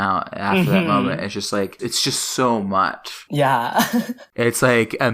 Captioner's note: laughs